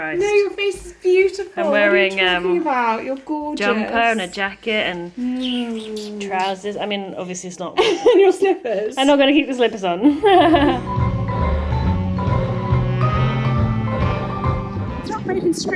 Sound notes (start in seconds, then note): 10.0 laughs; 12.3 relaxing Jazz music